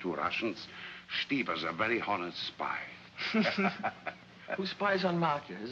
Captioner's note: laughs